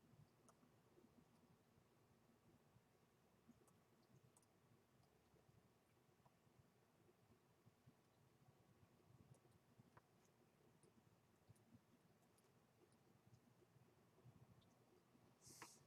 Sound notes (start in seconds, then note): none